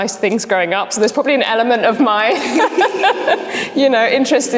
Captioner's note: laughs